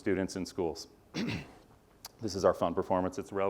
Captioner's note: cough